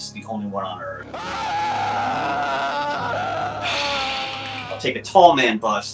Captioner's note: man screaming